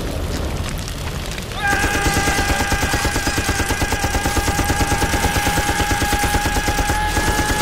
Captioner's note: fire crackling; Jim screaming; gun firing